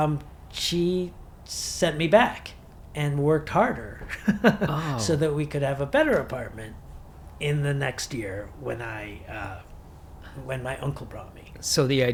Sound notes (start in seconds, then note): 4.0 chuckles